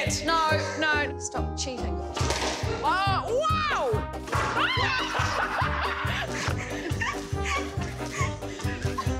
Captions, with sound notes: - No, stop cheating. (laughs loudly)